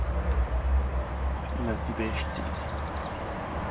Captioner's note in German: auf Schweizerdeutsch